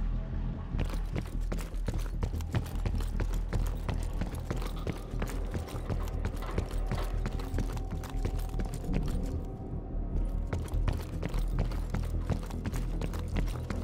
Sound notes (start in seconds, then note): 4.7 footsteps